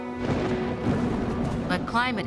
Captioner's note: thunder crackling